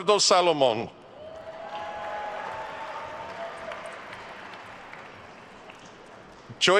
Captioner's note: attendees cheering and applauding